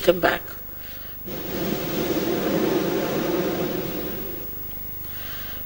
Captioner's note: blows into the microphone